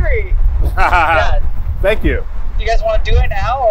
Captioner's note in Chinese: 笑声